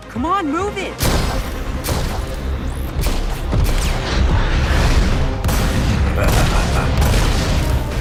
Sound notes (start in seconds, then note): 5.9 dark laughter